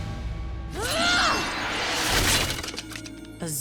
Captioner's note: grunting